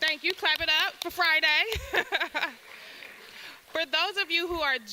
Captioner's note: applause; laughs